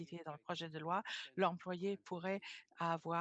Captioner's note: speaking French